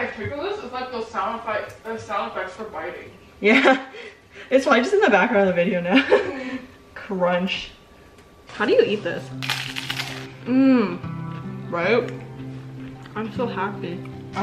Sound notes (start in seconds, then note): 9.4 more crunching